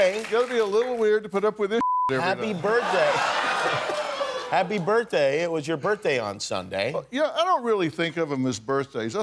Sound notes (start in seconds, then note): 2.2 laughs